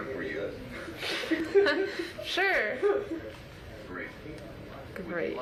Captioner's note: laughs